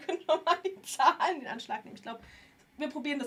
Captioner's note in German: gelächter